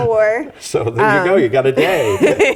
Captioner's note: laugh